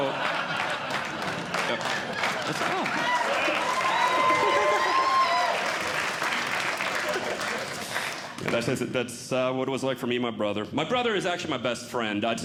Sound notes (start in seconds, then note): 0.0 audience Laughing; 2.6 audience Clapping